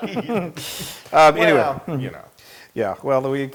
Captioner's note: laugh